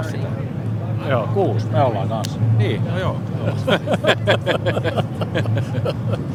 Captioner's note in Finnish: naurua